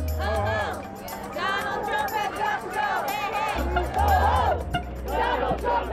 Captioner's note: chanting